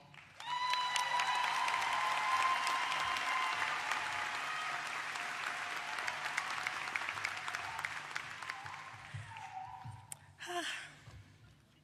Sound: applause

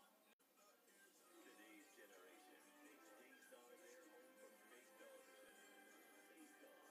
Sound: on TV

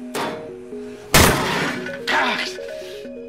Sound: smash

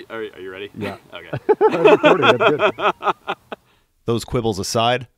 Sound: laughter

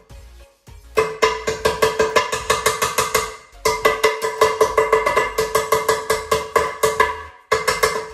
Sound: knocking... trying to loosen the rust

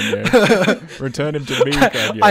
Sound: all laugh

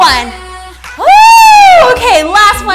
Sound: bell dings

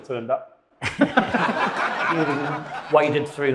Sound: audience laughs

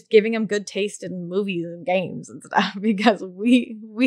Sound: laughs

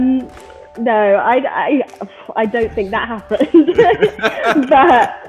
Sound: both laughing

